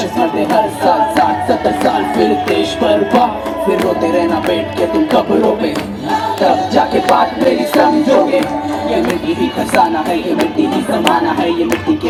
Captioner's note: cheering/Applause; speaks in Hindi - not transcribed; cheering/Applause